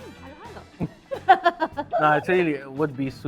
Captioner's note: laughs